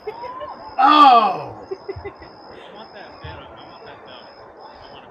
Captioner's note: crazy man excited, crowd cheering